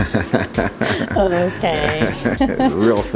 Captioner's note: laughing